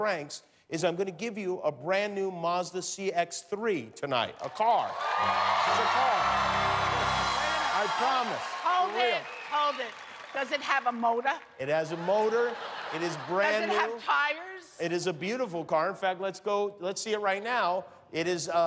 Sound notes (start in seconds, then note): 9.6 cheers and applause